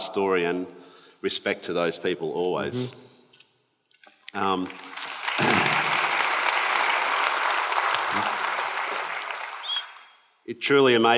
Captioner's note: applause